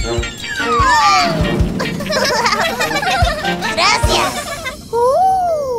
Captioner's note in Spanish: Risas